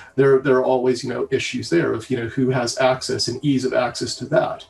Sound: none

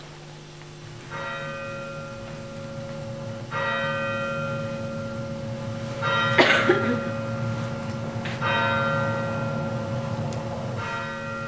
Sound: church bell rings

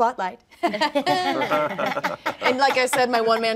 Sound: all laughing

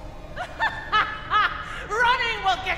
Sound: laughing

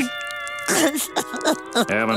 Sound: sobbing

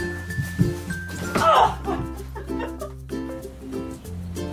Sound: laughing

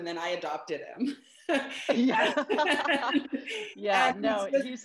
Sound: laughter

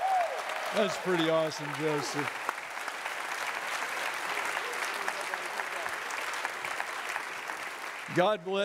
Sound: udience clapping

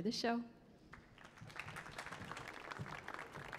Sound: audience claps

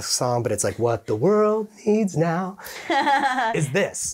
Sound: chuckling

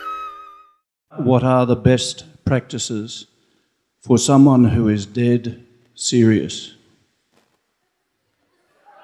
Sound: laughter

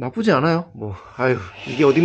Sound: sigh

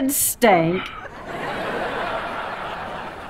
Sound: laughing

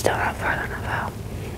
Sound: whispering

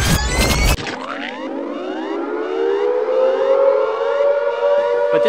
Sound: audio rewind screeching; sirens alarming

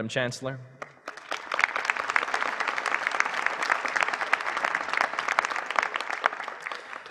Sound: applause

